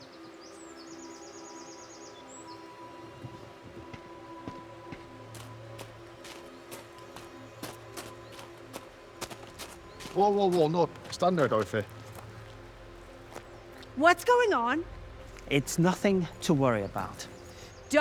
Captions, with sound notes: (footsteps plodding) (pensive music continues) - Whoa, whoa, whoa, no, stand there, Dorothy. - What's going on? - It's nothing to worry about.